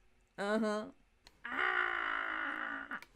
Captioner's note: random screaming